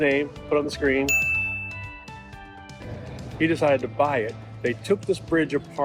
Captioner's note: bell rings